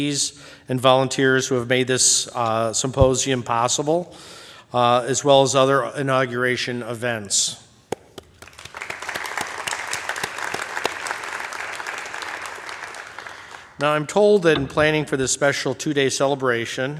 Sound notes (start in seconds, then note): 8.0 applause